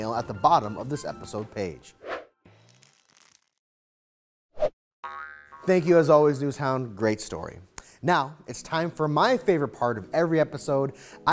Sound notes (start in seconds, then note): none